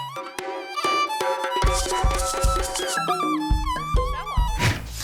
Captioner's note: knocking